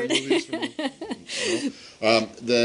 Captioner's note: laughter